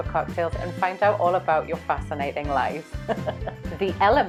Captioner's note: laughs